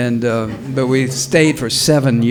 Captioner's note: audience laughs